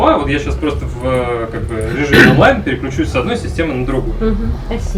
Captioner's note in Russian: откашливается